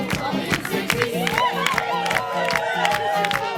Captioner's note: clapping; cheering and whistling